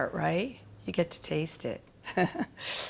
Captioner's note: chuckles